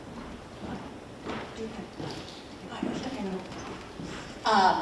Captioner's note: muffled chatter